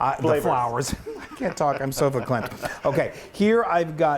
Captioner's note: laugh